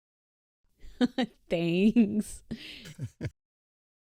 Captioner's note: laughs; chuckles